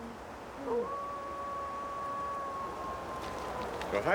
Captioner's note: dog howls in distance